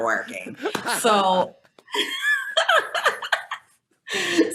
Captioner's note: laughing